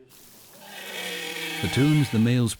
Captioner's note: whale singing